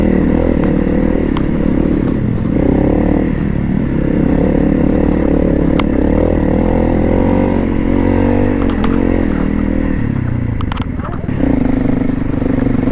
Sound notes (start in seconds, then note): 3.0 brrrrrrrrrrap; 7.0 brrrrrrrrrrr